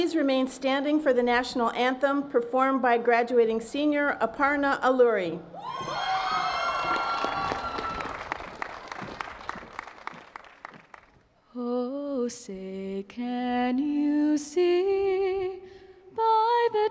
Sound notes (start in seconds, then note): 5.6 audience cheering